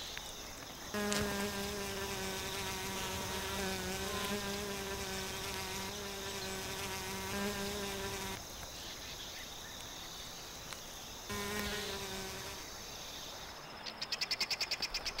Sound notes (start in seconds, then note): 0.0 birds chirping; 0.9 bee buzzing; 8.4 birds chirping